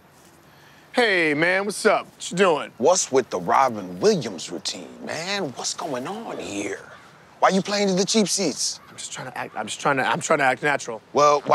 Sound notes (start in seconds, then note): none